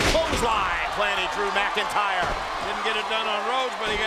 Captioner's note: body thudding